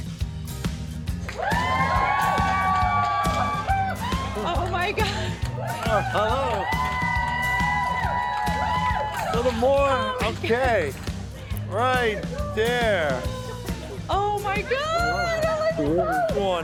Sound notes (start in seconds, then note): 0.1 upbeat music; 1.2 audience cheers and applauds; 6.8 laughs